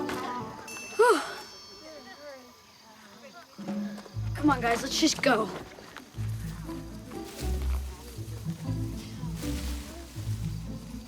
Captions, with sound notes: (sighs) - Come on guys, let's just go.